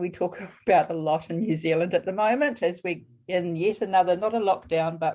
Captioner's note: chuckle